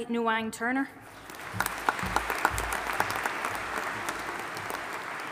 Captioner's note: audience applauding